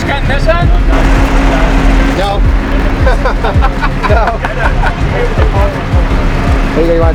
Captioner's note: laughs